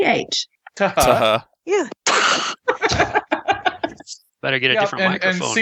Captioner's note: laughter